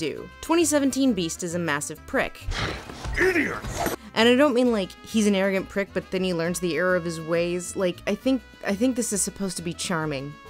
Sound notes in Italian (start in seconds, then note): 4.4 voce fuori campo